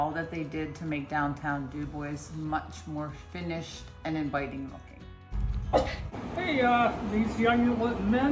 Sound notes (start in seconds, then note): 5.7 bark